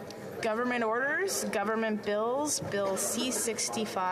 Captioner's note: speaking French